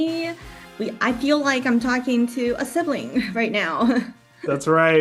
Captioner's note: laughs and triumphant music fades out